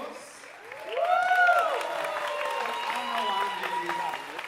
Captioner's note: audience cheering and applauding